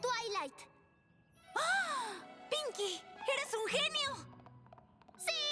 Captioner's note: gasp